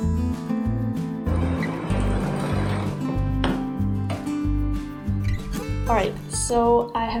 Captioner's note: sewing machine noises